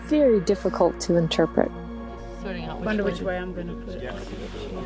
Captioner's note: background chatter